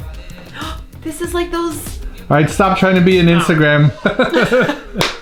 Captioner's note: gasp